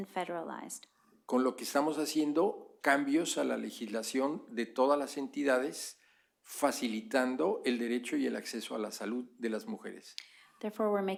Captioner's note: speaking spanish